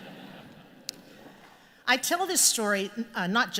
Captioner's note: laughter